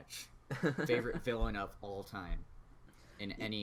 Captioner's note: laughs